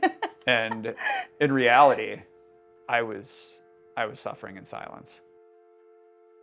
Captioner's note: laughs